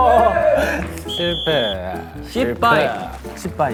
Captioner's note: complaining